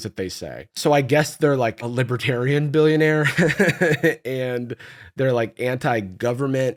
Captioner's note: laughs